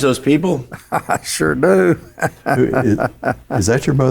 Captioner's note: laughs